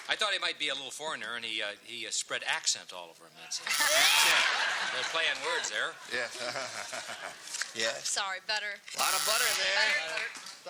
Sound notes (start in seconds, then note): 3.7 buzzer